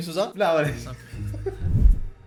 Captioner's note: laughs